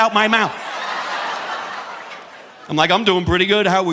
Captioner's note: audience laughing